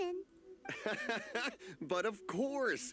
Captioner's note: laughs